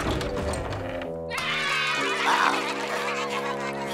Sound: clamoring

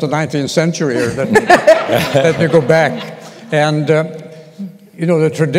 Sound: laughter

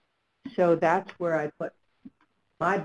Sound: voiceover

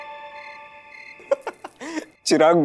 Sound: laughing

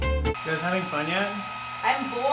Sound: voiceover

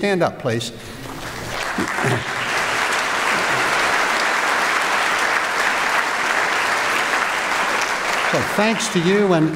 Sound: applause

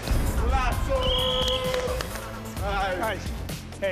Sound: whistle blows

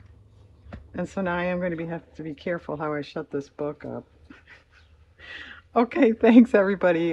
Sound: laughs

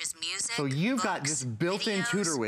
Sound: electronic voice

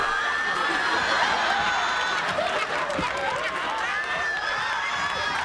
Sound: studio audience laughing

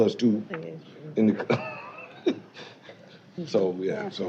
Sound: laughing

